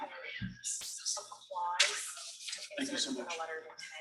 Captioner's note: people chattering indistinctly